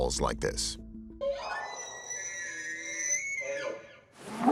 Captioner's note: squealing; whooping sound